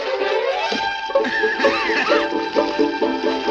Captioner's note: coughs